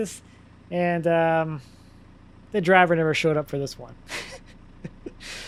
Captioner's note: laughs